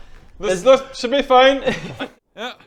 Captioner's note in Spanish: se ríe